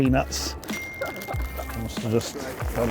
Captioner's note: dinging; laughing